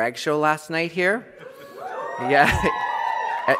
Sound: applause

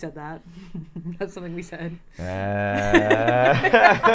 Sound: laughing; Safiya laughing

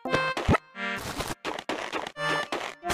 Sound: footsteps

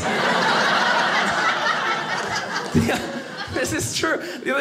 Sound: audience laughing

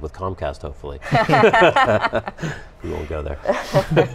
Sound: laughter

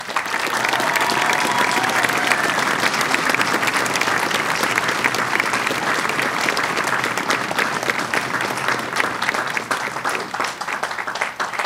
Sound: cheering and applause

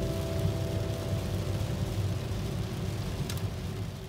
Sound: heavy rain🌧

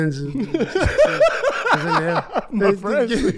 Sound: group laughs

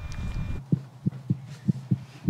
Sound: quick heartbeat

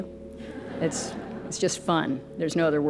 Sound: crowd laughs

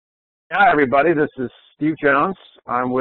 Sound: voiceover

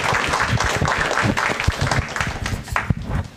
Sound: applause

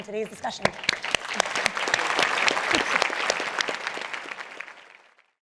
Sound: applause

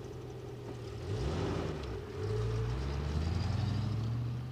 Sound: engine rumbling

